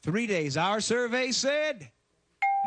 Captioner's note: ding